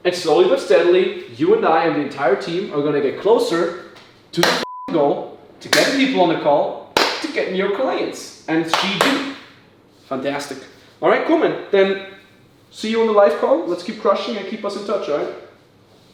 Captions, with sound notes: And slowly but steadily you and I and the entire team are gonna get closer to (beep) (claps hands) know, to get people (claps hands) on the call, to get (claps hands) new clients. And (claps hands) what we do. Fantastic. All right, come in then see you on the live call. Let's keep crushing it and keep us in touch, right?